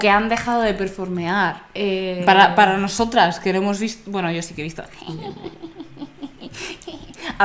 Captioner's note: hehehehe